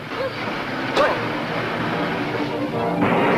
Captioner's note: car engine revving; suspenseful music; water splashing